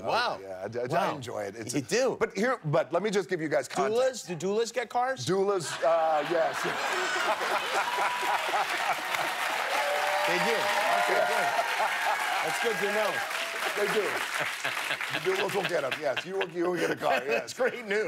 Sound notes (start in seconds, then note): 11.9 laughter; 12.2 cheers and applause